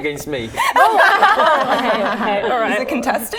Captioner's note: laughing